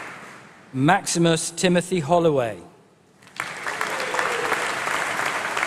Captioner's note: applause